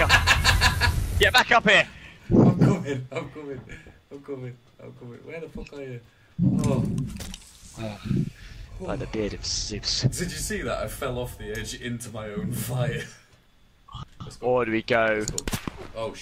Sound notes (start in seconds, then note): 0.0 laughs hysterically; 2.2 semi-laughing still; 7.1 sigh of relief